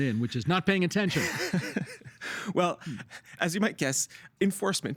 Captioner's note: laughing